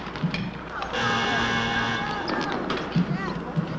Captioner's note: game buzzer blares